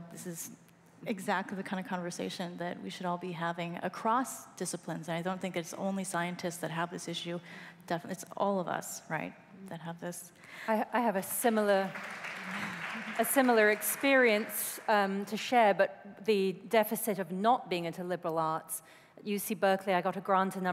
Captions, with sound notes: OTHER PERSPECTIVES. SO THIS IS EXACTLY THE KIND OF CONVERSATION THAT WE SHOULD ALL BE HAVING ACROSS DISCIPLINES. I DON'T THINK IT'S ONLY SCIENTISTS THAT HAVE THIS ISSUE, IT'S ALL OF US, RIGHT, THAT HAVE THIS. >> I HAVE A SIMILAR -- [ APPLAUSE ] -- A SIMILAR EXPERIENCE TO SHARE, BUT THE DEFICIT OF NOT